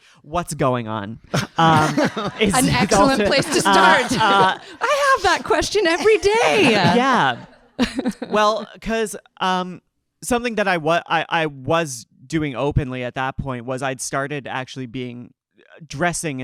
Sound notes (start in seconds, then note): 1.3 audience laughing